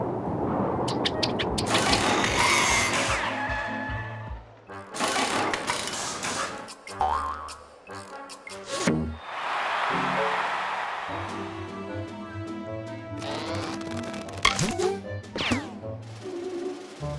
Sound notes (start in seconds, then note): 1.7 mechanical whirring; 9.1 crowd cheers